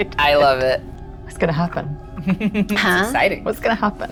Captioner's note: laughs